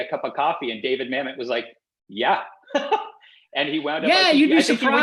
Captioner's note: laughs